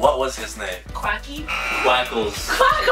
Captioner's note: buzzer